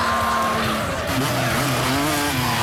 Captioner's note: overlapping chattering; motorcycle engine revs